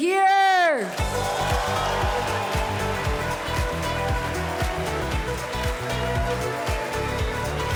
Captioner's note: audience cheering; cheerful music